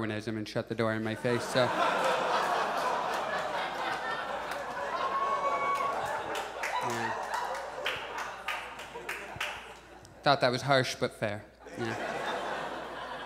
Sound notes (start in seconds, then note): 1.3 audience applauds; 11.7 audience laughs